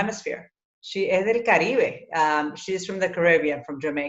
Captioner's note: speaking in foreign language